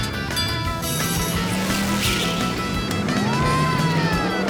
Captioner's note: engines revving